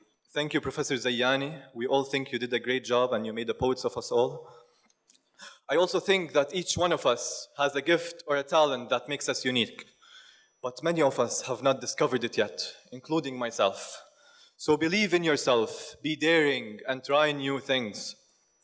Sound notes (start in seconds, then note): none